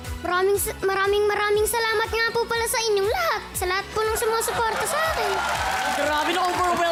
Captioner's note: with an accent; cheering, applause